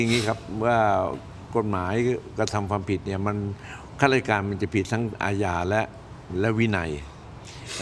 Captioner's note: takes a deep breath